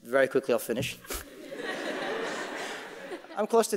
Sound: audience laughing

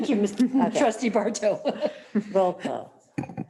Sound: laughs

